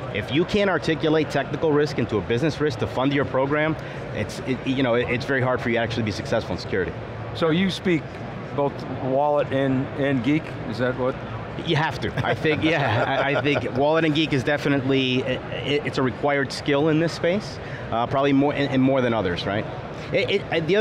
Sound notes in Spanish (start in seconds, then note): 12.1 Riéndose; 12.1 ríe